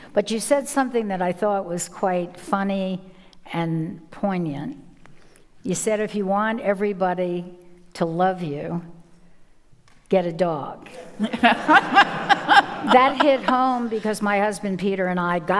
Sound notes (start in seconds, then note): 11.2 audience laughing